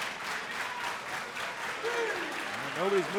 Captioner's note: crowd cheering